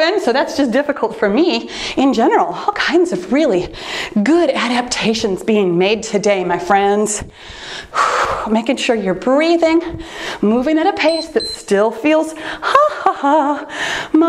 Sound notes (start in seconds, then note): 7.3 exhales; 11.0 timer beeps